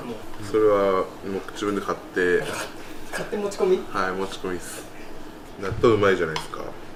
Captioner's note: laughs